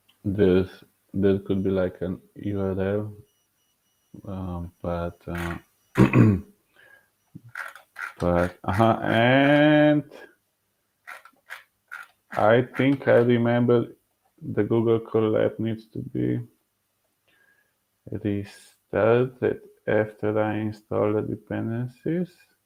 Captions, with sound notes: this, this could be like an URL, wow but (clearing throat) but, and I think I remember the Google call that needs to be, installed that after I install the dependencies,